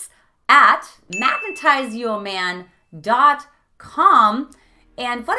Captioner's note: beep